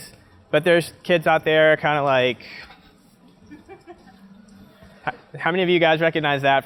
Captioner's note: laugh